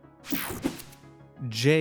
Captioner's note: screen buzzing